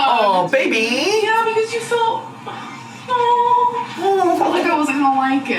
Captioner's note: coos